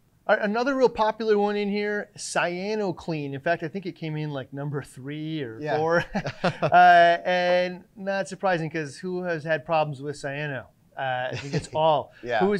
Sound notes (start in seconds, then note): 5.8 giggles